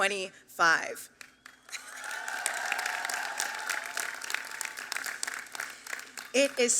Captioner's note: applause